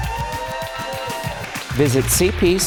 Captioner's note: audience applause